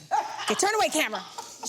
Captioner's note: Vernee laughs